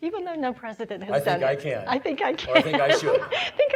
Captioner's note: laughing